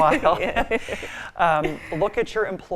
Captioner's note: both laughing